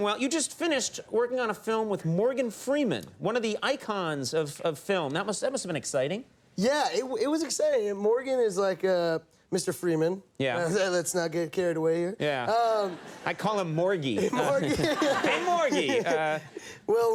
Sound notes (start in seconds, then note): 12.6 audience laughing; 14.1 laughing